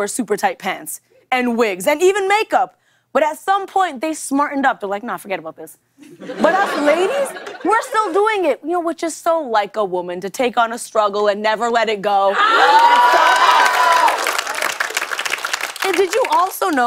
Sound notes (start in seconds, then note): 12.4 cheers and applause